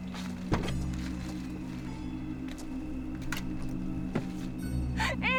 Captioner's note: door clicks